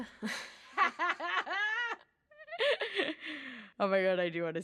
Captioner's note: laughing